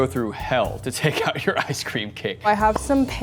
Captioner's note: laughs